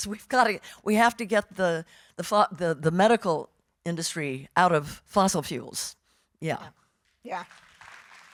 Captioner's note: audience applauding